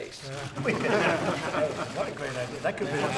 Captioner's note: laughter